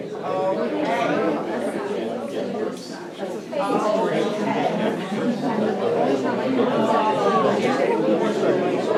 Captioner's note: crowd murmering